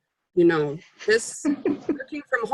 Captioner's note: laugh